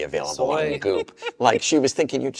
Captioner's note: laughs